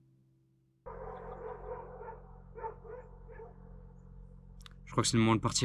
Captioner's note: barking